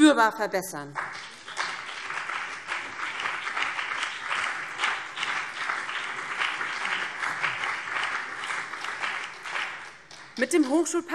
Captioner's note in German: Beifall BÜNDNIS 90/DIE GRÜNEN und vereinzelt CDU